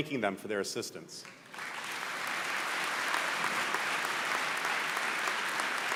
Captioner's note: applause